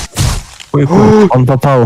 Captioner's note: surprised noise